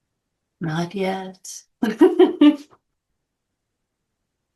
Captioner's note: laughs